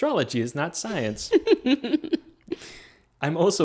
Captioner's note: laughing